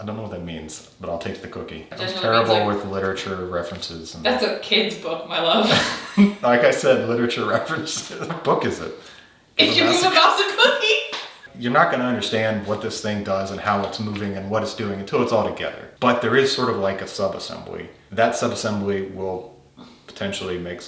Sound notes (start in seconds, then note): 9.6 laughing